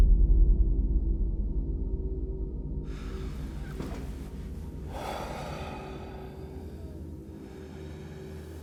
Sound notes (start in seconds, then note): 5.0 Danny sighs